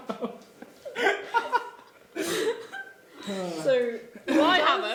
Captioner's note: laughing